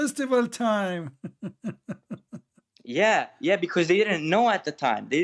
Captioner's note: Ketawa